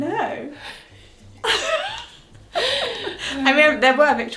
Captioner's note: both laugh